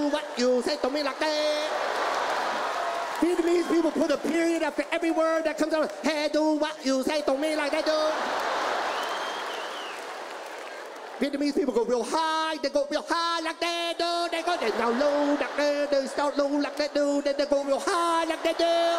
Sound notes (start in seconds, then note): 1.8 audience laughs and applauds; 7.2 audience laughs